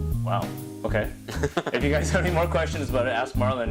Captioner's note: laughter